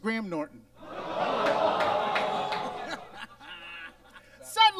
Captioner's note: audience groans; Monet laughs